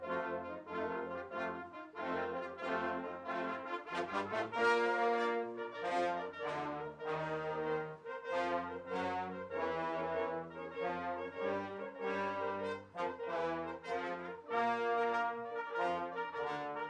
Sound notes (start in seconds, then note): none